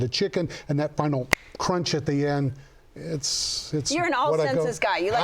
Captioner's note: snaps fingers